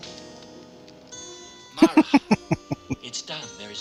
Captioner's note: laughing